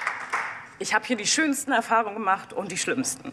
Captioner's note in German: Applaus